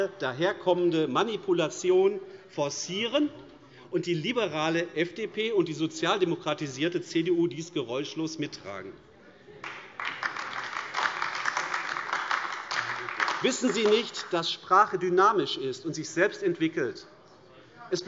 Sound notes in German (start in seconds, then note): 9.6 Beifall AfD